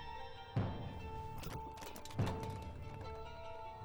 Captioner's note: thump